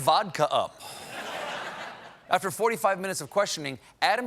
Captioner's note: laughter